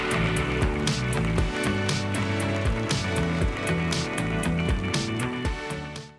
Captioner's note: applause